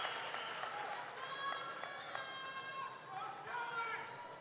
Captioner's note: cheers and applause